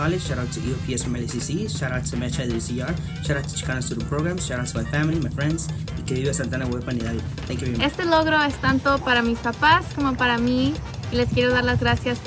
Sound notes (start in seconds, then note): 5.7 speaks in foreign language